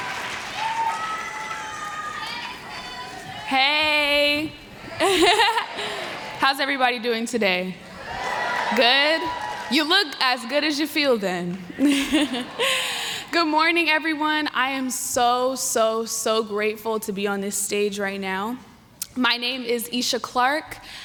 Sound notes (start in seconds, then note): 4.9 laughter